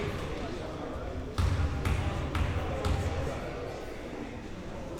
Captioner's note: ball pounding